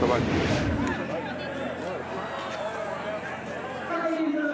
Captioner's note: crowd chattering